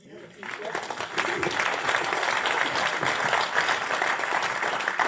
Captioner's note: audience aplauds